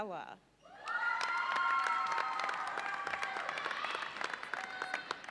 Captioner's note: audience cheers and applauds